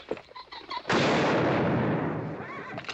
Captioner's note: gunshot